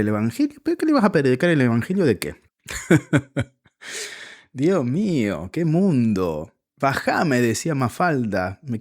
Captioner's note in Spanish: risas